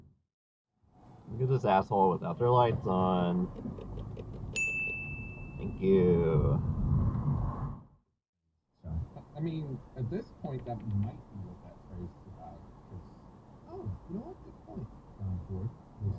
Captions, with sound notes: Look at this asshole without their lights on *ding* Thank yoouuu